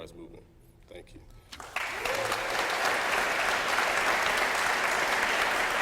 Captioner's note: applause